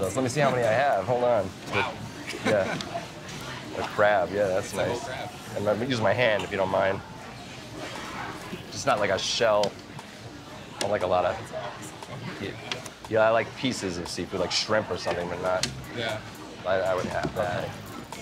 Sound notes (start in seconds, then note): 2.2 chuckles